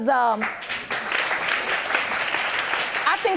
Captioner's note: applause